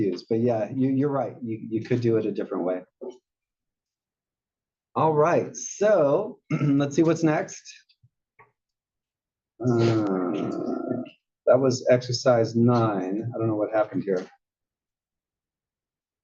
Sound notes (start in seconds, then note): 6.4 cough